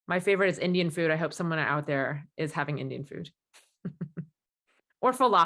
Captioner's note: chuckles